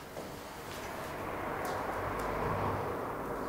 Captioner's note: distant street noise